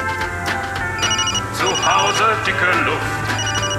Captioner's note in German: Handy klingelt